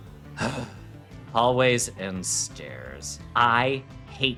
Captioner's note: grunting sigh